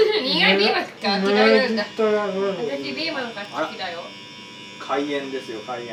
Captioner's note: buzzer sound